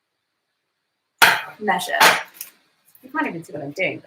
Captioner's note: cake pan base thuds